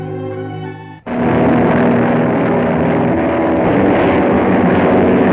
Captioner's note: plane whirring